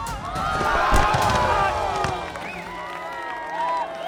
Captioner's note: crowd gasping